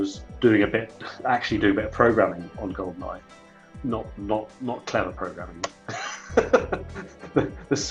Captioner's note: laughs